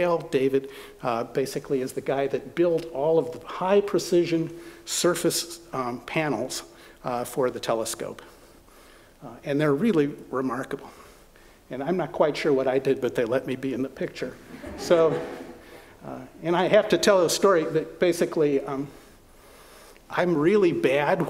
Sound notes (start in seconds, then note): 14.4 laughter